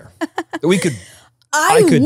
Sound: laughs

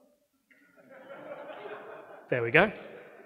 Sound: audience laughing

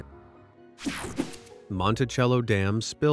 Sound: logo whooshing

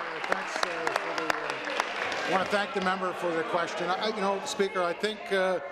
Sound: applause

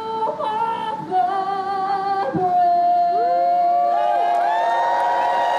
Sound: cheers

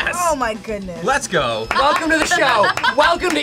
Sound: claps

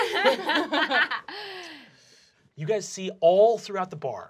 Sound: laughing

